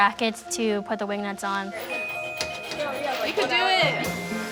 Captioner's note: tools tinkering and revving